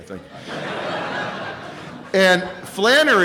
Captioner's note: laughter